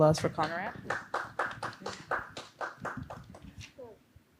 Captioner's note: applause